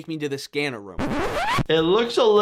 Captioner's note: record scratching